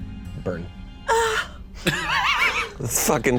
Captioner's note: moans